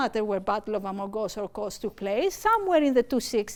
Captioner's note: speaking greek